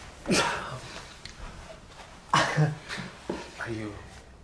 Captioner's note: groans; chuckles